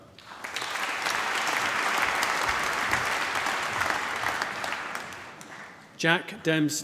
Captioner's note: applause